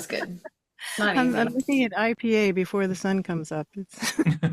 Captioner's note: laughter